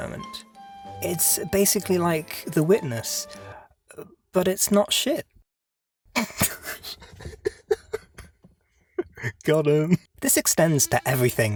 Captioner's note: laughter